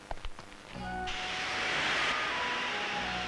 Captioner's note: Deflating tyre